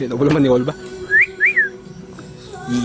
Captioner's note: better whistle this time